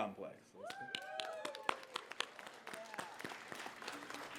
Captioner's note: cheers, applause